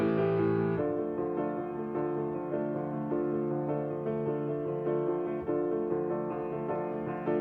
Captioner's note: none